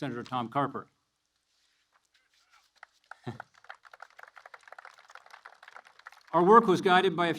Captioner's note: applause